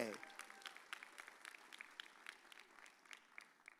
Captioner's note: audience cheers